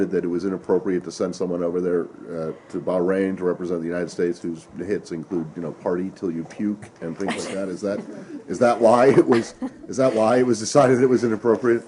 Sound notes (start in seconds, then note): 8.9 laughter